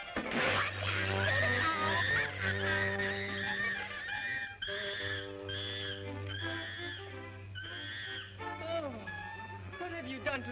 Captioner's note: chimp screeching